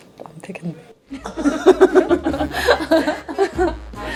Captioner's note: hahaha